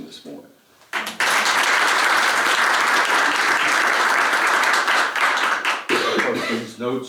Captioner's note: applause